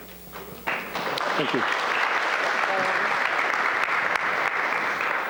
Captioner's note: applause